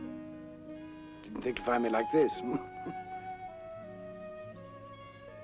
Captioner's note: chuckles